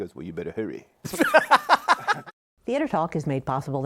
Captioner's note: laughs